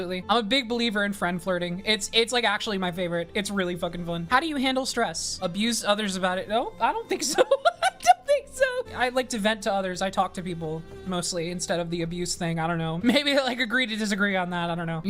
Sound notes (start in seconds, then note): 7.2 laughs